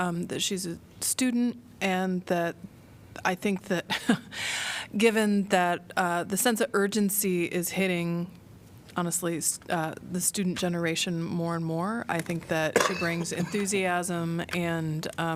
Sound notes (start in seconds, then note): 3.9 laughter